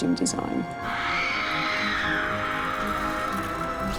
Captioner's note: screaming